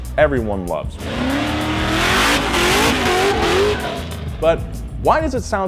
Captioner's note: engine revs